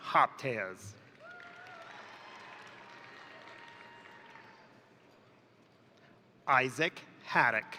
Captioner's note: crowd applauding; crowd cheering